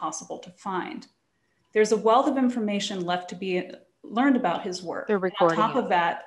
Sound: sound interuption

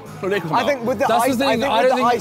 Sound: mutters

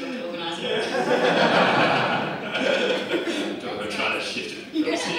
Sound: audience laughs

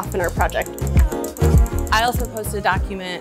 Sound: mouse clicking

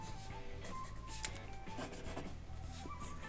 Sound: quiet, intense sketching

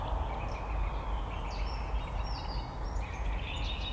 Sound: bird sounds

